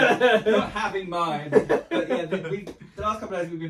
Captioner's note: laughing